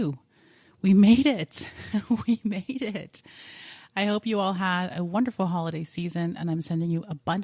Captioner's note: giggling